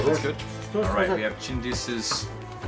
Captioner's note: speaking foreign language